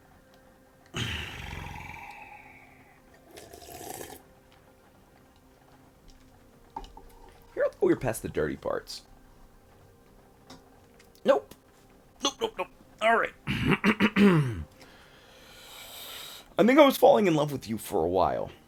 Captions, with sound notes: (breathy lip trills, drinks water) Here, I thought we were past the dirty parts. Nope. Nope, nope, nope. Alright. (clear throat)